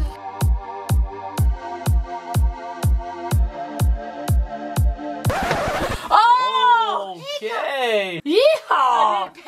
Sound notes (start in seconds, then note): 1.3 upbeat music; 5.2 record scratches